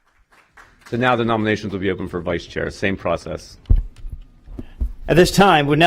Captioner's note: applause